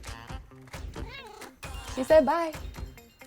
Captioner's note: cat meowing